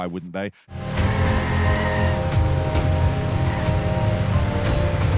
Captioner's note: engine revving